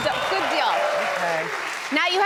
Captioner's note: audience cheers